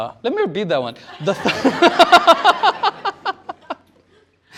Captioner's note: laughter